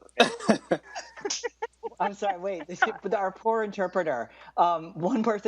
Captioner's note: laughter